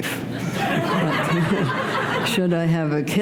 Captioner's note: laughter